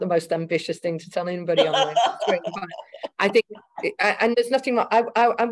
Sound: speaking faintly; laughing

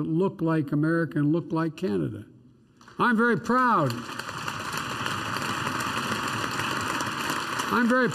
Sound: applause

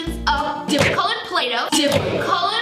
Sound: loud punch

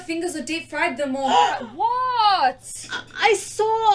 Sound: gasps

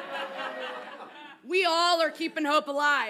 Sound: audience laughs

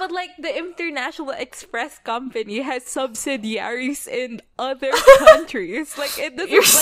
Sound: laughs

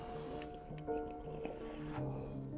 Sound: soft piano music; water bubbling; heavy breathing; soft piano music

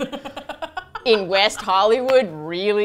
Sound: laughs

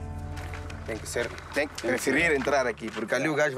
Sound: Portuguese spoken audio

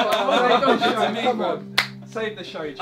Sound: all laughing

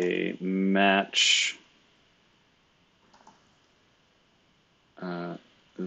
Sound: computer keyboard clicking

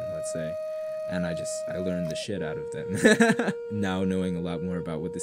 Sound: laughs

